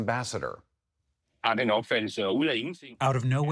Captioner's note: through translator